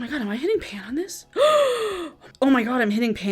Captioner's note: gasps